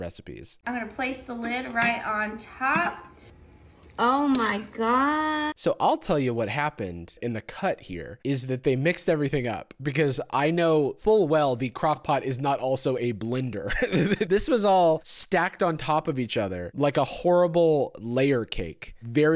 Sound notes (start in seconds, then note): 13.7 laughs